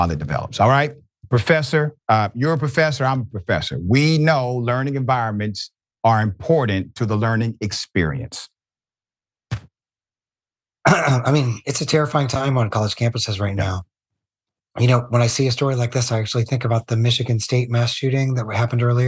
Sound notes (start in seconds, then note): 10.8 cough